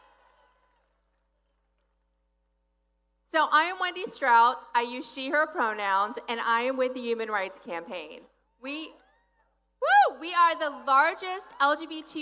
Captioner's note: applause